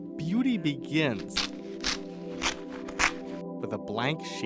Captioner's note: paper tearing